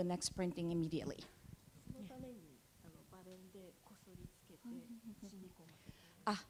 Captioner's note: speaking japanese